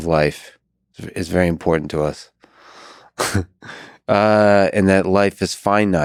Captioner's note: chuckles